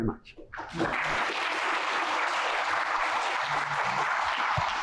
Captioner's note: applause